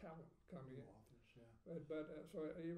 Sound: speaking faintly

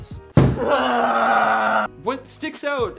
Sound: screams

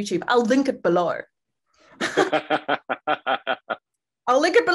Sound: laughing

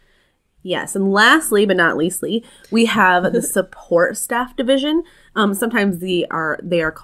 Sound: laugh

